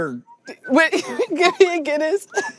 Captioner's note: whistles softly